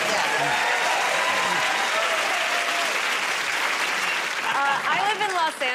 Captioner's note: cheers and applause